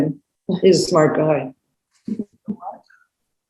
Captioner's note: chuckles